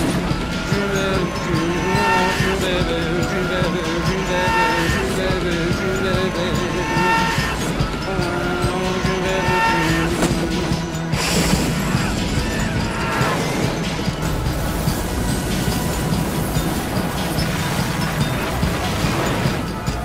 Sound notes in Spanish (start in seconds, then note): 10.0 gritos; 11.6 gritos en pánico